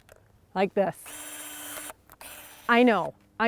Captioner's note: machine whirring